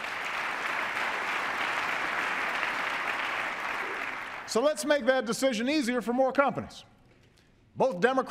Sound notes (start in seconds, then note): 0.0 applause